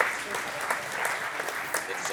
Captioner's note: applause